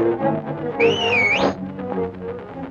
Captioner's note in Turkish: Islık sesi